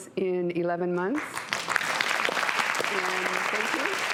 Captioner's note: audience applause